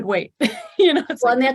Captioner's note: laughing